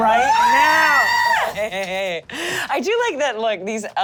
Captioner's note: screaming